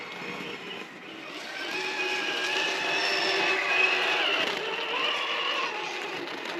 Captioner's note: vroom! Vroom!